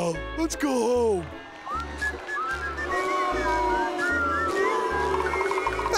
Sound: whistling; audience booing

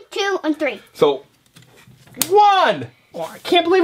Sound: voiceover

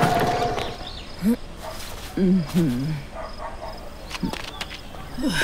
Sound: woman grunting

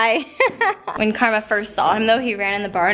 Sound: laughs

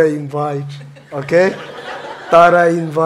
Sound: audience laughing

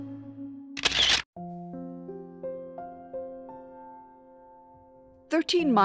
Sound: camera shuttering; slow somber music

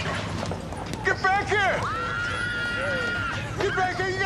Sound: girls screaming

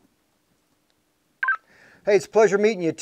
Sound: device Chirps

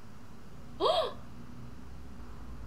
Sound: gasp

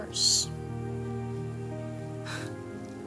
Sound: exhales

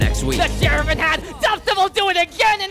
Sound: excited

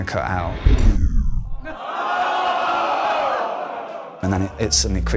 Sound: pained groans

